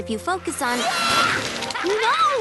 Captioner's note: whoosh